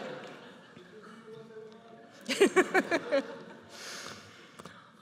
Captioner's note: speaking faintly